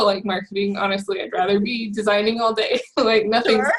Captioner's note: laughs